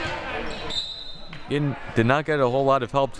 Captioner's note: whistle blowing